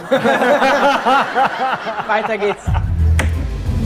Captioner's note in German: Gelächter